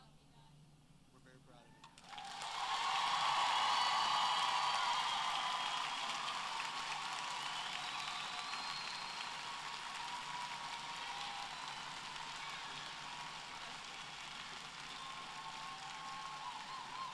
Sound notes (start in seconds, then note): 1.9 applause